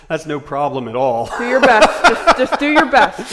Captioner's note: laughing